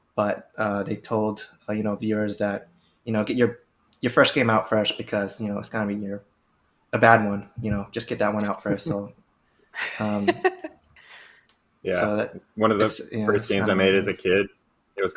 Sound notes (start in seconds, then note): 9.8 laughs